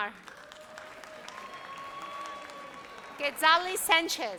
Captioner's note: audience cheers